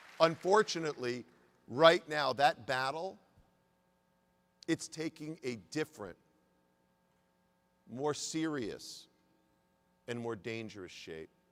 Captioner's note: applause